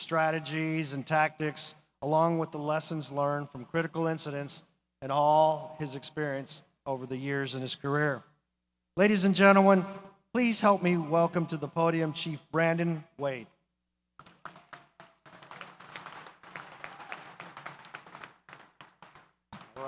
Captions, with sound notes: strategies and tactics, along with the lessons learned from critical incidents, and all his experience over the years in his career. Ladies and gentlemen, please help me welcome to the podium Chief Brandon Wade. (audience applauds)